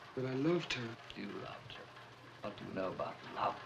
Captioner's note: mocking